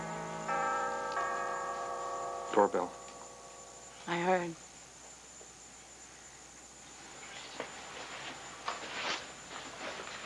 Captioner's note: doorbell rings